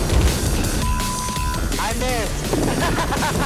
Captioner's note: laughs